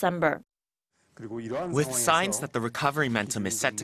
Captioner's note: Korean